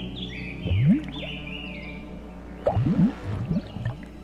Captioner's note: ominous orchestral music; goo bubbling